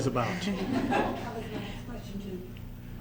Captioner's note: laughter